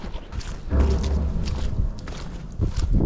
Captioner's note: metal gates clashing